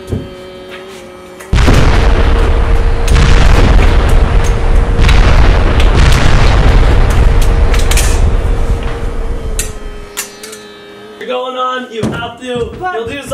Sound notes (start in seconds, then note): 1.5 explosions